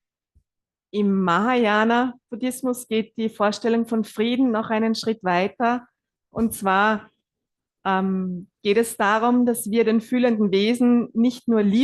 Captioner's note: German live translation